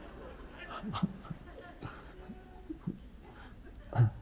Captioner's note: Eckhart giggles